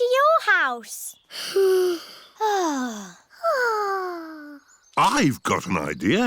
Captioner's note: all sigh